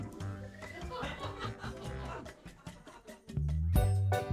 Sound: laughing

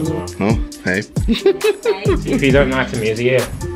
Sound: laughter

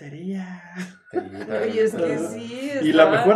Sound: laughing and agreeing

